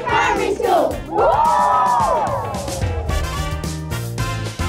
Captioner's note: all cheer